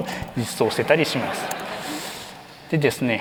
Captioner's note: laughter